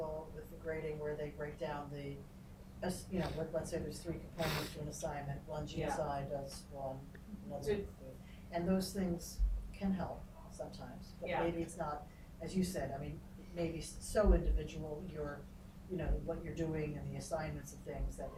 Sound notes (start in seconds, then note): 4.4 man sniffling